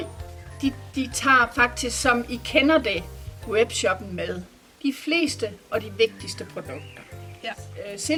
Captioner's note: in Danish